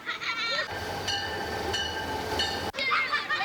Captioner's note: children laughing; train bell ringing; children laughing